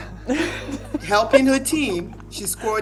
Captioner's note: women laughing